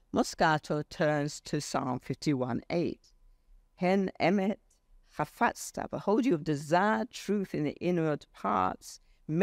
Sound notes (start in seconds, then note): 4.1 speaks foreign language